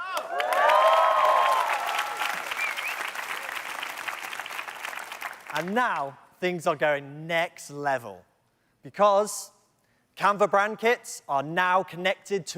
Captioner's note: cheers and Applause